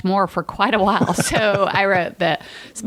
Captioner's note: chuckle